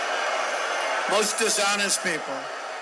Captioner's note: crowd clamoring